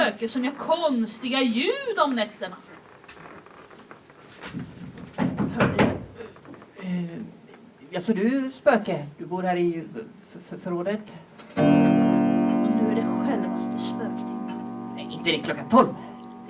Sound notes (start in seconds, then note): 4.9 the door shakes and slams; 11.5 the clock strikes one